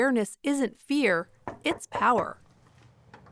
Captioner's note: knocking sounds; door clicks